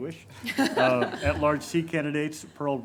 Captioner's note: everyone laughs